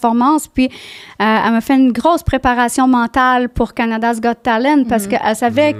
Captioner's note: in french